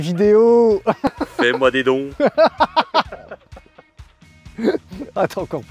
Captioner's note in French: Rires